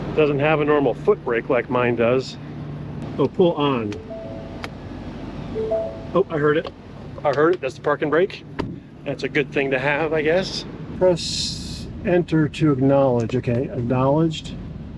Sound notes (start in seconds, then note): 5.5 bell tone dinging